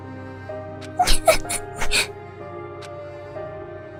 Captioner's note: sniff